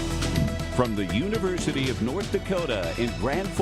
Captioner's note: voiceover